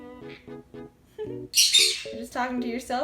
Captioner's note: smol chirps; Screech